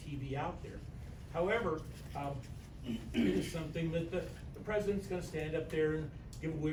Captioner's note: stammers